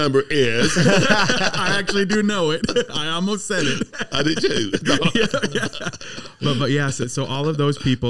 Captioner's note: laughing